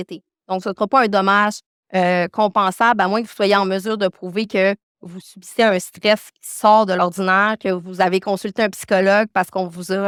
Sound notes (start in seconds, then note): 4.2 continues speaking French